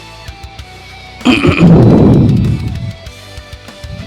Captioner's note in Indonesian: batuk; berdehem